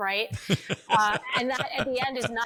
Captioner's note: laugh